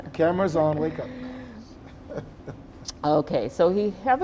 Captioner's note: chuckling; chuckles